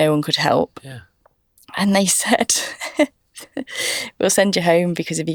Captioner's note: laughs